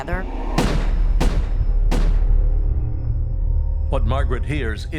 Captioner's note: gun firing